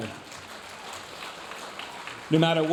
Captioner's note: audience applauding